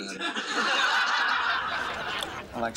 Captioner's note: laughter